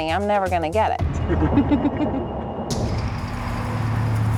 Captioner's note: laughs